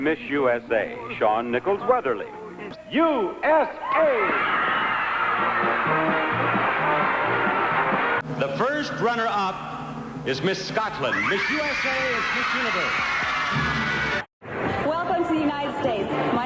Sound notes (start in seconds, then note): 3.7 crowd cheering; 6.1 blues music; 12.9 crowd cheering